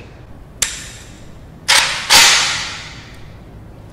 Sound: AK-47 noises

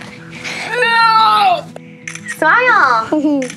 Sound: grunts

